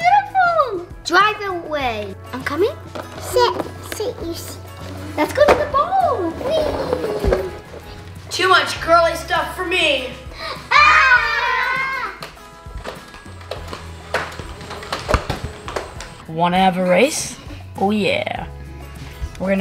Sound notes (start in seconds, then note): 12.4 toy gun firing